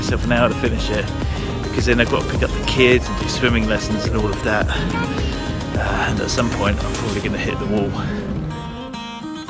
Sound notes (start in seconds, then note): 5.5 child's Voice